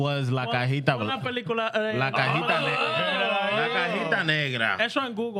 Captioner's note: speaking Foreign Language